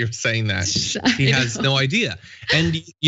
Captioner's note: laugh